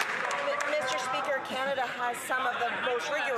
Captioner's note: some Applause